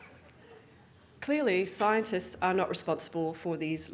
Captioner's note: audience Laughing